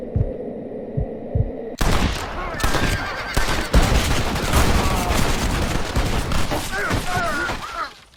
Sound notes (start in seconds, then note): 0.0 tense music; 1.8 guns firing